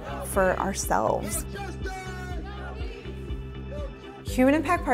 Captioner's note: protestors chanting